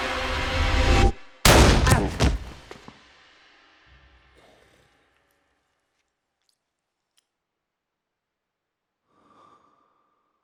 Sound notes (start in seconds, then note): 1.4 gunshot